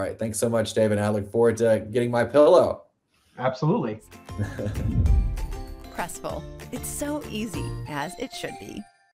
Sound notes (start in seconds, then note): 4.0 bright music; 4.3 laughs